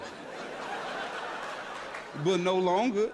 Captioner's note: audience laughs